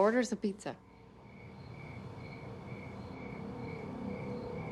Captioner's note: crickets chirping